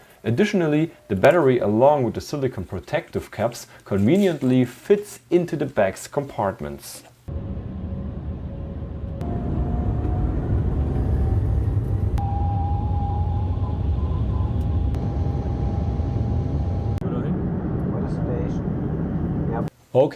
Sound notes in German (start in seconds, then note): 7.3 Flugzeuggeräusche